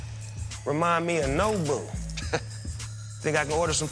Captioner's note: chuckles